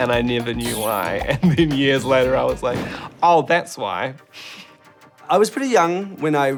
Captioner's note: chuckles